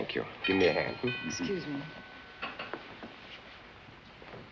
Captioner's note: door bell